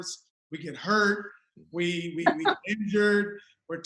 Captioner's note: laughs